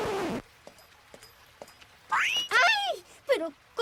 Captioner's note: footsteps approaching